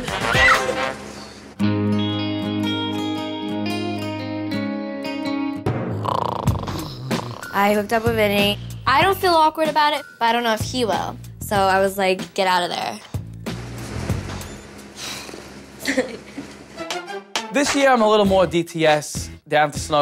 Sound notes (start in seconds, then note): 5.9 snoring; 15.8 giggles